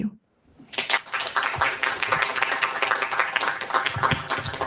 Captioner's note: applause